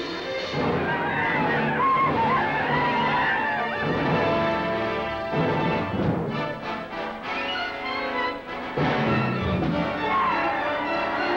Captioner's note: yelling